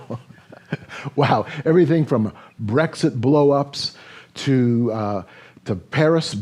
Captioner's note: chuckles